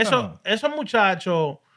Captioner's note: non-english Speech